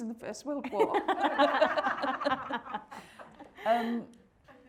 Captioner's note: everyone laughing